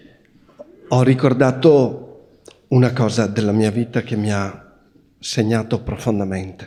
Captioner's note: questioner speaking Italian